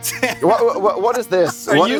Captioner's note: laughs; stutters